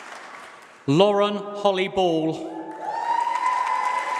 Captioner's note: applause